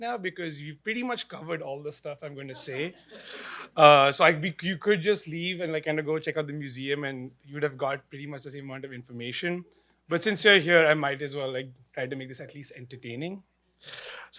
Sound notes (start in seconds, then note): 3.3 laughter